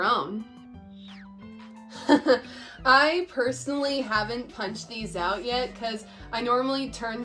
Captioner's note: laughs